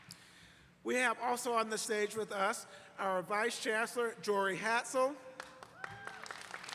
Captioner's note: applause